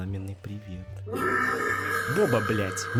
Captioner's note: burps